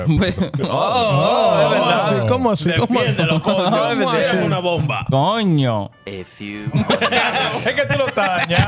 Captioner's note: laughing; speaking In Foreign Language